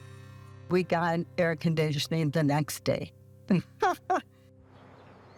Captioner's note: laughs